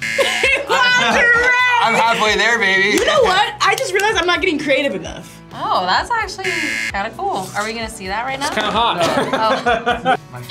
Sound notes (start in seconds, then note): 0.0 buzzer rings; 0.2 laughs; 9.0 laughs